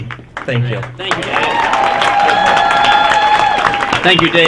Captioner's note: applause